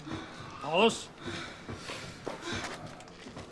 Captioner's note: heavy breathing